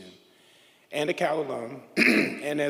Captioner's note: throat clears